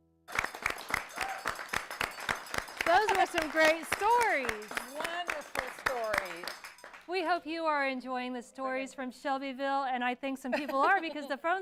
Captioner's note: bell ringing